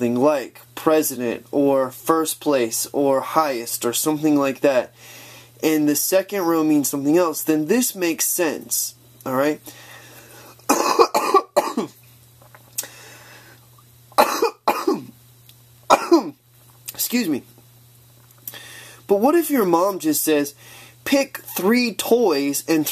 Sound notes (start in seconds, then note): 10.6 coughing